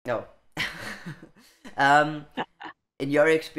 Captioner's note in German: Beide Frauen lachen